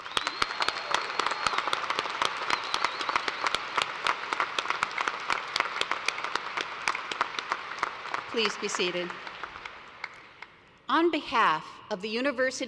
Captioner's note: applause